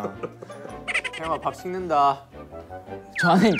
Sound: laughing

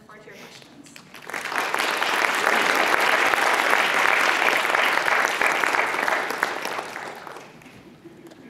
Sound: applause

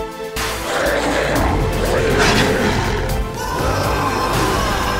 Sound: wolf growling

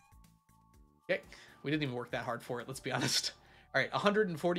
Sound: laughs

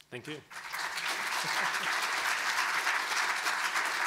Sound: audience claps; clapping

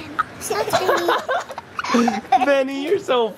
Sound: laughter

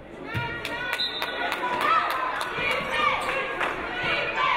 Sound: referee blows whistle

